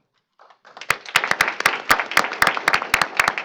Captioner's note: applause